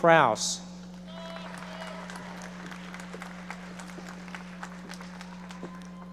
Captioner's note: audience members applauding